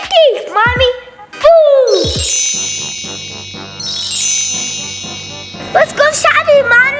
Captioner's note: magical tinging